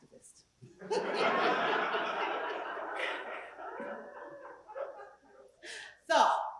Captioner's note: laugh